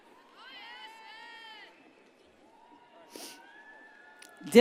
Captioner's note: audience cheers